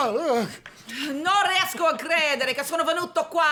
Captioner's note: speaking italian